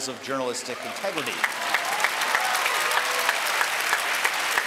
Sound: applause

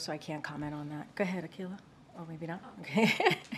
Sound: laughs

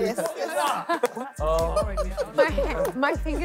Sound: KSI laughing

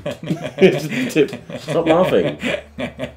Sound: laughing

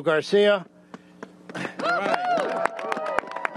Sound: applause

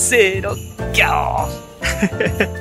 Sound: lion roar in Japanese

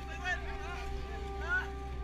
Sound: yelling

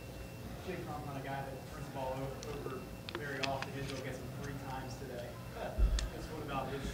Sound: laughs

